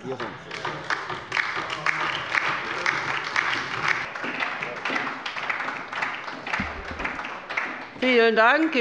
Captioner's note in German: Beifall bei der LINKEN und der SPD